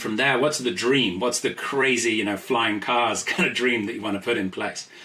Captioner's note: laughs